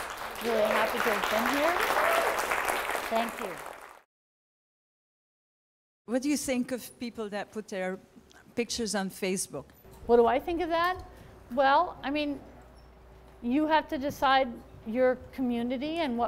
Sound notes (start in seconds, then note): 2.9 applause and cheering